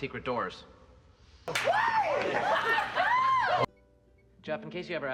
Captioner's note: laughing and cheering